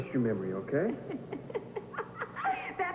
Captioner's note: Reva laughs